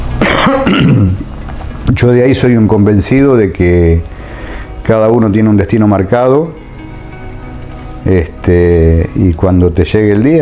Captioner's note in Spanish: carraspeo